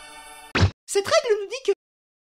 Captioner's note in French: voix fluette